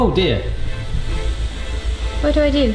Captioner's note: press sizzling